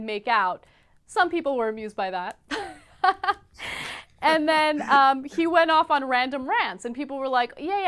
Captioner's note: laughing